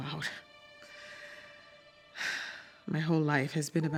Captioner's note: sighs